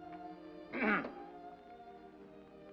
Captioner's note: soft sentimental music; clears throat